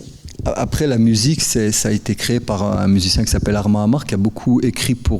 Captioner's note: speaking in French